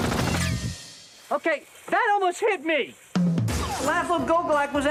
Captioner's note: bullets whizzing